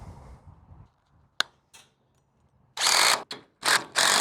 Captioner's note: snapping; drill whirring